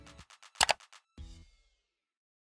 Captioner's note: mouse clicking